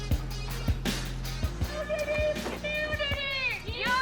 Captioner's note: crowd chanting